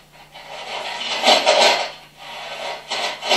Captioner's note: clanking noise